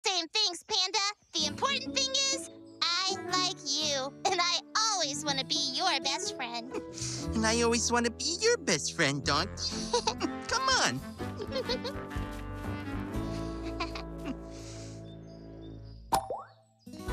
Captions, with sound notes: And I always want to be your best friend. -And I always want to be your best friend, Donkey! -[Giggles] -C'mon!